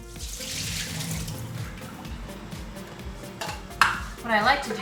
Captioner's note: water pouring